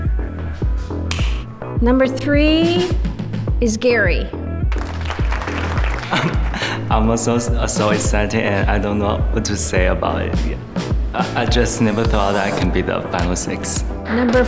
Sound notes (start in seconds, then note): 1.1 clap; 4.7 applause